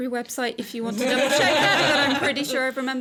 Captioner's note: chuckling